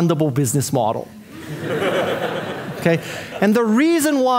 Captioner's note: audience laughing